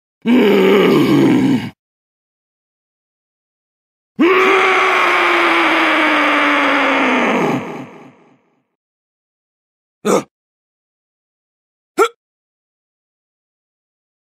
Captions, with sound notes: UUUGHH!!! *Scream* ugh! hump!